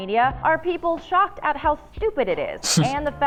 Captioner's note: chuckles